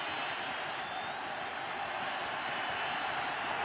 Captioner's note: crowd cheering